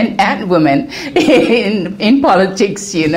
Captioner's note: laugh